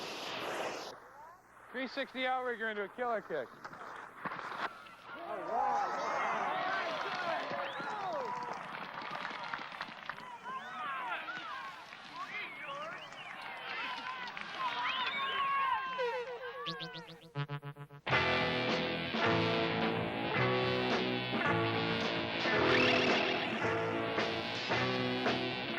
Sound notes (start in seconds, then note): 0.0 skis swoosh; 9.6 crowd cheers and applause; 20.8 psychedelic rock